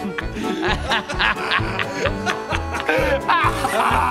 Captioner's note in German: Sie lachen weiter